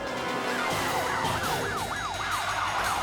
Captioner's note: sirens wailing; tires screeching; suspenseful music